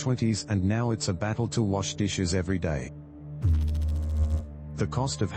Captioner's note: electrical noise